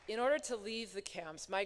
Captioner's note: applause